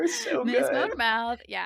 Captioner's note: laughing